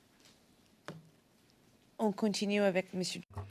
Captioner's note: speaking French